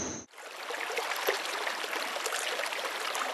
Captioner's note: water running